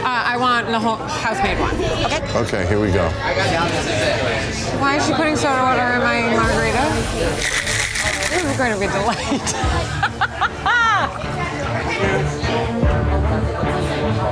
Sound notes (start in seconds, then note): 9.1 laughs